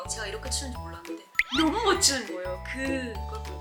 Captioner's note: surprised